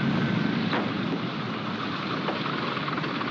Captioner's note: door opens